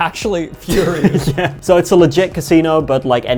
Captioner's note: laughing